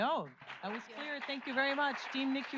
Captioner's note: audience applauds